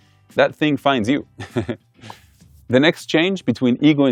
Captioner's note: laughs